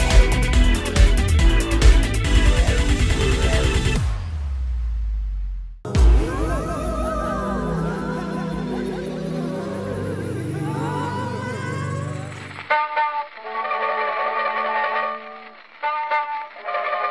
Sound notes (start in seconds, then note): 5.6 ghostly yelling; 5.6 mystical music playing; 5.9 old-timey music